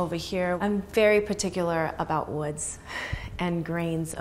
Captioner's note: sighs